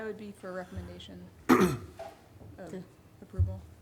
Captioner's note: clears throat